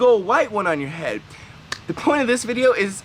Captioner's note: claps hands